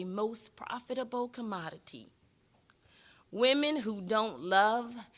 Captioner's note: none